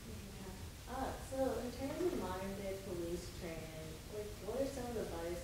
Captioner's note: woman's Voice